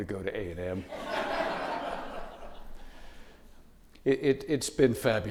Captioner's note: audience laughing